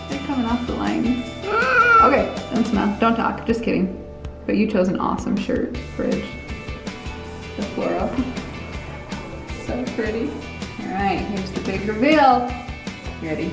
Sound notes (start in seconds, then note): 1.4 whimpers